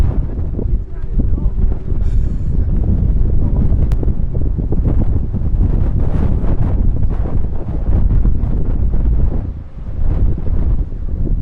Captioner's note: sound of strong winds